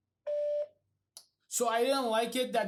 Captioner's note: voicemail beeping